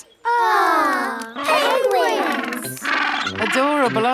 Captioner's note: penguins chatter